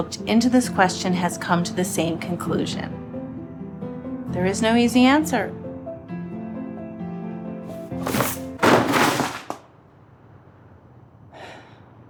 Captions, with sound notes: into this question has come to the same conclusion: there is no easy answer. (books clattering)